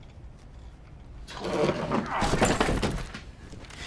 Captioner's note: thud